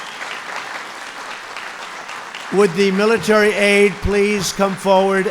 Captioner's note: applause